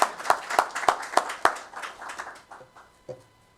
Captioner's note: applause